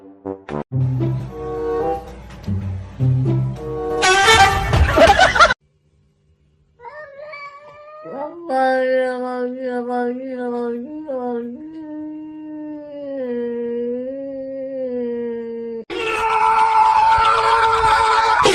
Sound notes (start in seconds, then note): 0.0 upbeat Music; 0.3 laughs; 6.1 screams; 6.8 baby Crying